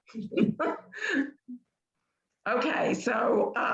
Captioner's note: chuckling